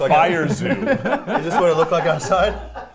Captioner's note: laughing